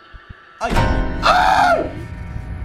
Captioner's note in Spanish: Grita